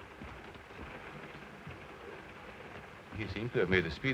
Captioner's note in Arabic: صوت خشخشة القطار